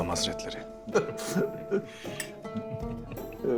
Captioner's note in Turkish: Gülme sesleri